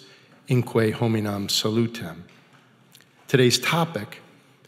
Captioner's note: speaking foreign language